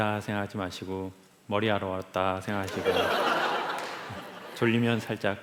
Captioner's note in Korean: 웃음